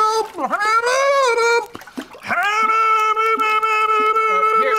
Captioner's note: gurgling